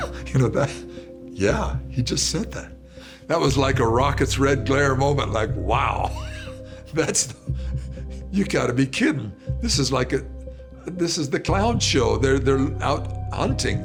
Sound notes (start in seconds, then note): 6.0 laughs